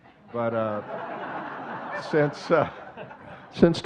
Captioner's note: audience laughing